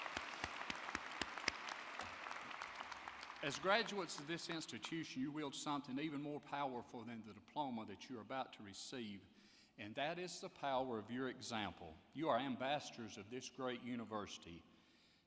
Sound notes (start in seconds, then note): 2.3 applause